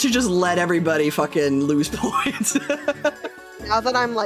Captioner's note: wheeze Laugh